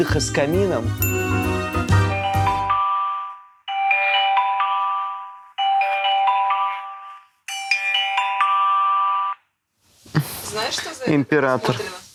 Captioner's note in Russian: звонок